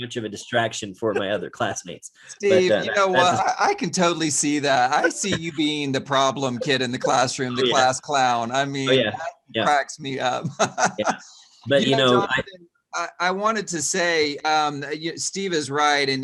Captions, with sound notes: of a distraction for my other classmates. - Steve, you know what? I can totally see that. I see you being the problem kid in the classroom the class clown, I mean, cracks me up. (chuckles) - I wanted to say Steve is right.